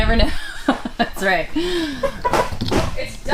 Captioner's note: laughing